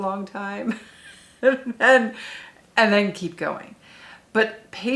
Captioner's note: chuckles